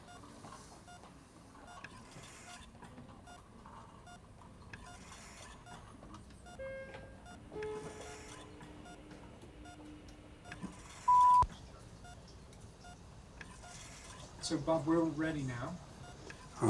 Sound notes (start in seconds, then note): 0.0 heart monitor beeping; 11.0 beeping